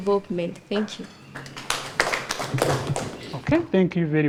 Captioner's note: applauding